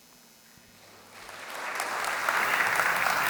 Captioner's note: applause